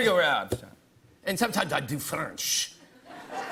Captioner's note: French accent